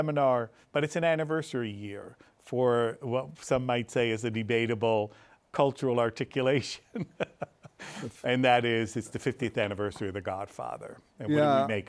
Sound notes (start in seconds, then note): 6.9 laughs